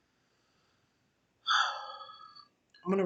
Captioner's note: sigh